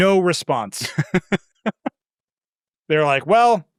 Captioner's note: laughing